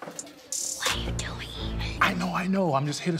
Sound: trash clanging; whispers

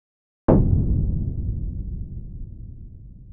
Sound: cannon fires

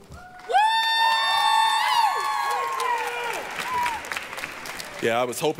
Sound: applause, cheering; yelling

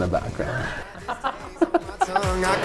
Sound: laughter

